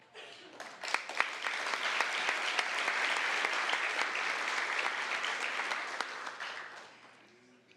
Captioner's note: applause